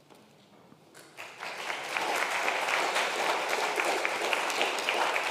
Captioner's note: congregation applauds